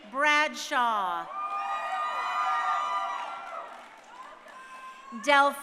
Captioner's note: crowd cheering